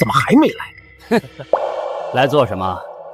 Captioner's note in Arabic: يضحك ساخرًا